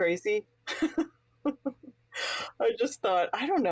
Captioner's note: laughs